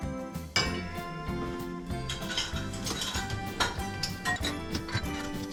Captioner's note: running the dishwasher